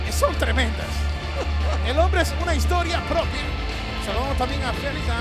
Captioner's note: laugh